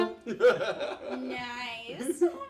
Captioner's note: laughing